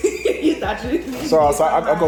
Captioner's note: laughing